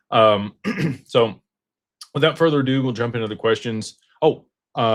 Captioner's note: clears throat